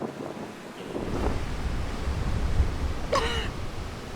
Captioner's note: sound - strong winds